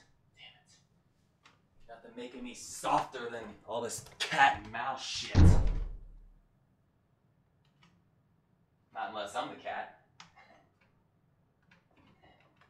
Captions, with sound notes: Damnit. Nothing making me softer than all this cat and mouse shit. [Thud Downstairs] Not unless I'm the cat.